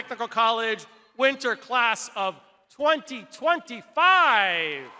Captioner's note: crowd applauding